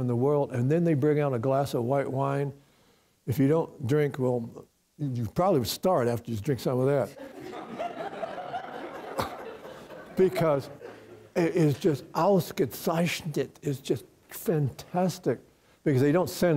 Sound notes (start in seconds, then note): 7.2 audience breaks out in laughter